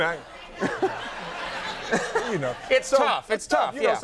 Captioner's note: everyone laughing